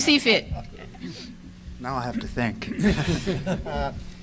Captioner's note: audience laughter